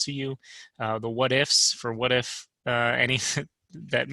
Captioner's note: laughter